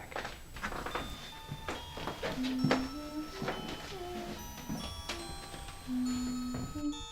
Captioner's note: chilling music; humming